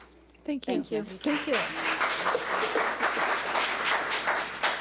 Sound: audience applauds

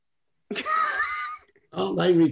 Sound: laughs

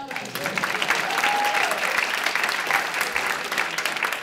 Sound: applause

